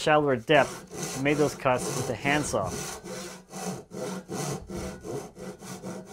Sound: saw grinding

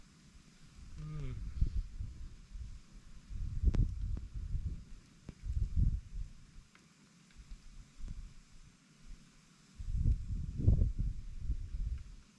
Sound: wind blowing

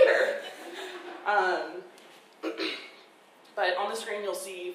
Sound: audience laughing

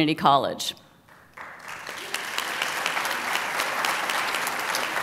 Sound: applause

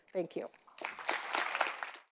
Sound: audience applauding

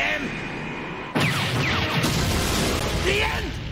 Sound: explosion

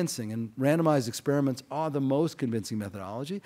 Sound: none

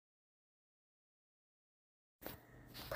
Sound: none

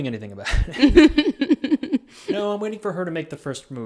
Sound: laughs

